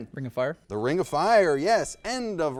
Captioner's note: bell chimes